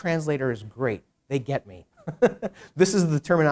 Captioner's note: chuckles